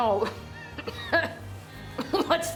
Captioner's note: coughing